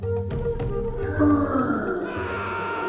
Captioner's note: loud roar; man screams